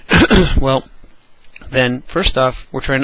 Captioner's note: cough